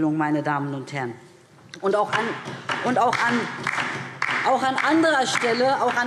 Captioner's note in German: Beifall DIE LINKE